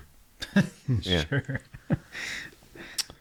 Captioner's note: laughing